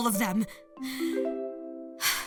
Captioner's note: inhale; exhale